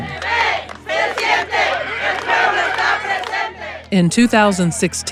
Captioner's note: chanting in Spanish